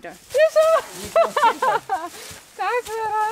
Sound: laughing

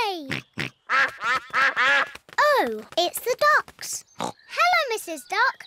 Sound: quacking

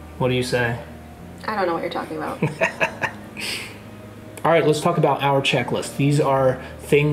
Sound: laughing

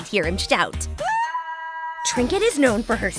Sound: king screams

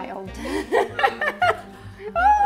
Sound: laughs

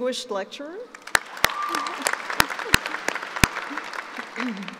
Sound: applauding

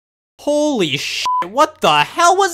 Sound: beep

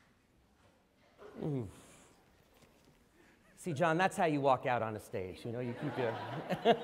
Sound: laughter

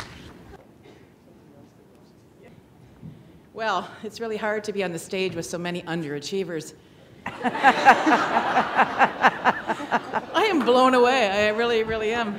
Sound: laughter

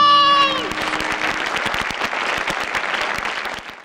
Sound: audience applauds

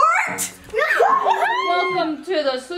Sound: everyone cheers

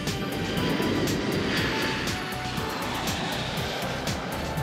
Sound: airplane flying

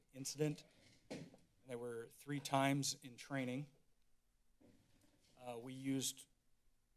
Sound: door closes

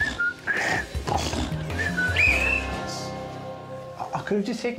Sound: whistle blows

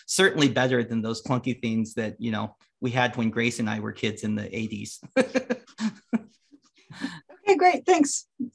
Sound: laughs

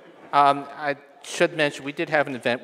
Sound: audience laughing

